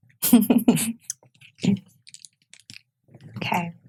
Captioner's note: laughs